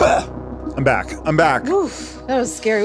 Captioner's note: coughs